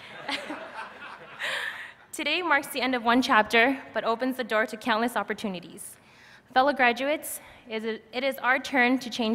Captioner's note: laughter